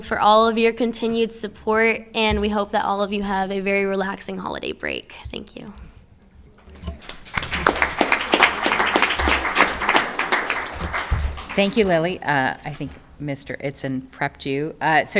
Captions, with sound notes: for all of your continued support and we hope that all of you have a very relaxing holiday break. Thank you. (all applauding) - Thank you, Lili. I think Mr. Aton prepped you,